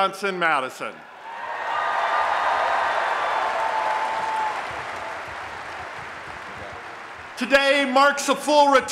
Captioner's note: applause and Cheering